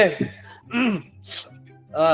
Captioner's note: preparing his voice